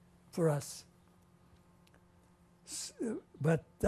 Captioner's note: pauses for 3 seconds